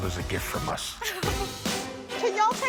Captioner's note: crying laughing